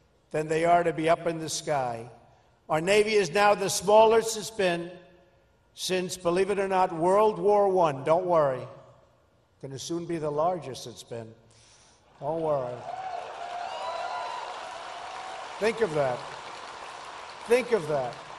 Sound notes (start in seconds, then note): 12.6 applause